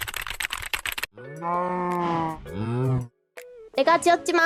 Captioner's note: cows mooing